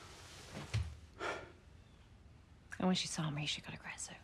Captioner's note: sigh